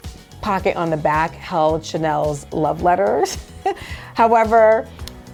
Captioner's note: laughs